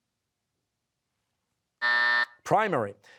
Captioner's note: buzzer